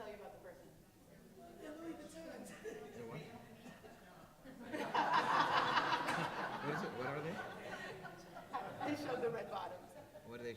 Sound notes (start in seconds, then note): 1.9 audience murmuring; 4.4 laughing